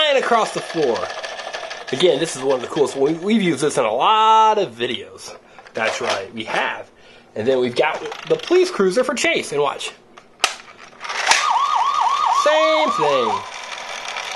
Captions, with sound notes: It goes flying across the floor. Again, this is one of the coolest. We've used this is in a lot of videos. That's right, we have. And then we've got the police cruiser for Chase, and watch! (police sirens) Same thing.